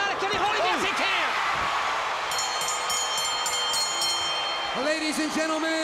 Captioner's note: bell ringing